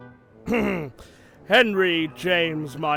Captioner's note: gordon clears throat